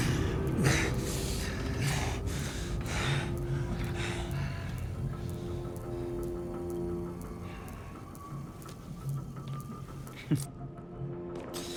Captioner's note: sighs